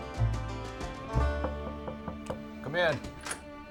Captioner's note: upbeat country music; knocking on door; door opens